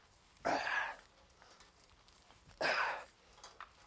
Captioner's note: Jim grunting